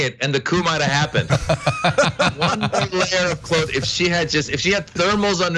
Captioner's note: laugh